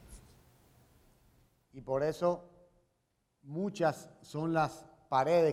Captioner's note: speaking in Spanish